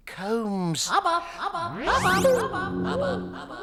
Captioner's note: outer space voice